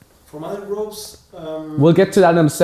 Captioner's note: male Voice